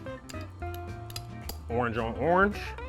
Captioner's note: tapping bowl